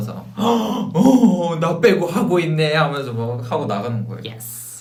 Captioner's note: gasp